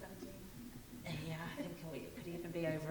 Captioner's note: speaking faintly